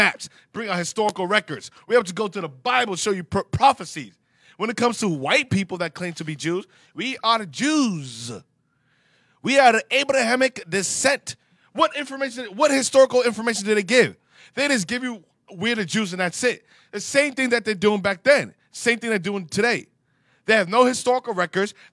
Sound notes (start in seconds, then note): 9.9 <i>sarcasm</i>